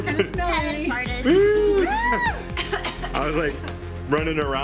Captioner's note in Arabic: يضحك ويئن والسعال